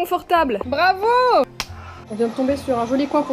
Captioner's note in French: tape de mains